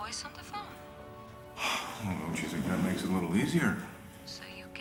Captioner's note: sighs